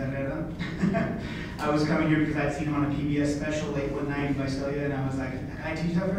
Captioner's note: laughs